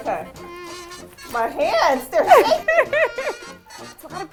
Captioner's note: laughs loudly